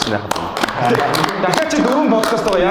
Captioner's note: applause